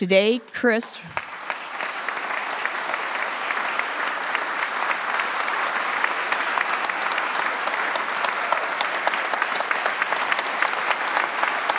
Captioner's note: applause